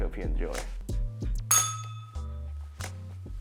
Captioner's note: bell rings